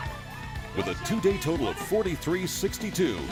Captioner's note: cheering